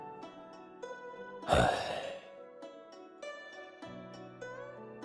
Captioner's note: sigh